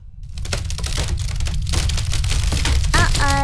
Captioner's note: creaking and rumbling